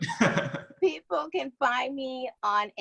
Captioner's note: laughs